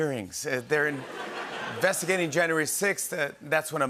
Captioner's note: laughter